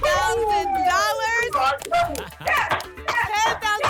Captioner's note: cheering